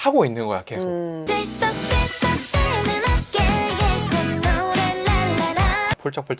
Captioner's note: A happy shoulder and Humming La-La-La